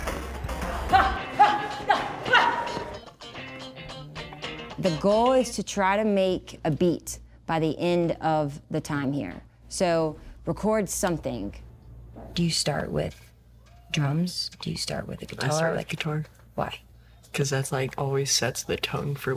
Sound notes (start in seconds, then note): 0.0 upbeat music; 3.8 kids grunting